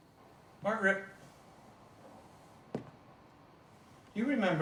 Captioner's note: footsteps lightly tapping